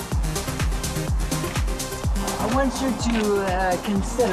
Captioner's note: none